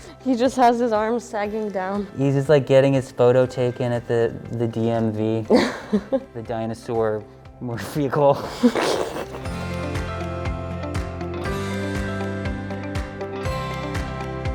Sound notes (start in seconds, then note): 8.3 laughs